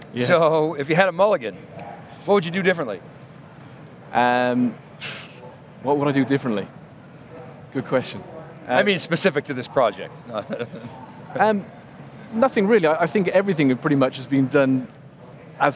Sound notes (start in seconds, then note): 10.2 chuckling